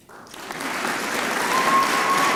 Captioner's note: applause